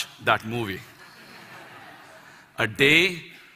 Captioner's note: Laughter